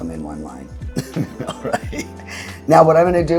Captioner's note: laughs